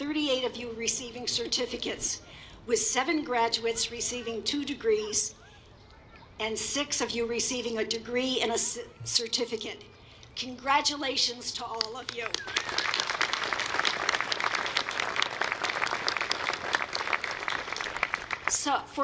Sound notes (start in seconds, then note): 11.7 applause